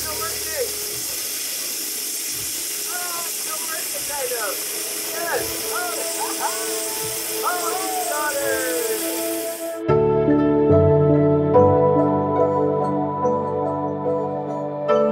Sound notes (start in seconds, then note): 7.6 yelling excitedly; 10.2 melancholy music